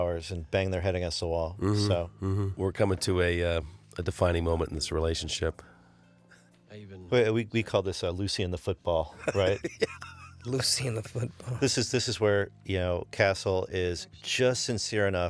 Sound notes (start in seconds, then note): 9.2 laughs